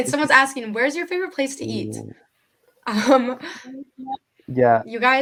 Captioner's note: laughing